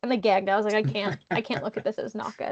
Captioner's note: laughing